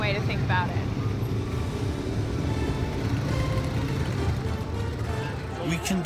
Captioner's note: revving motors